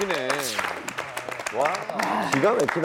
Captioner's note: the applause keeps flooding in